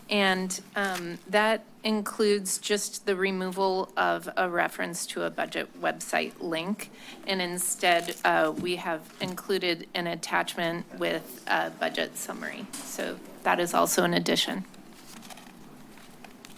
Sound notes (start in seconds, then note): none